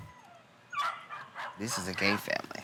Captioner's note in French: aboiement de chien